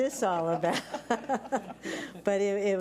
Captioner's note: laughs